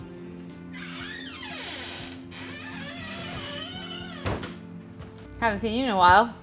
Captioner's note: sound of door opening